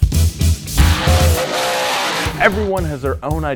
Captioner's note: engine roaring